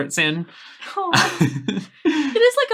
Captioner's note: laughs